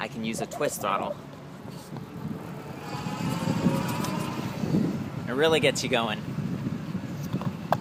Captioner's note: motor noise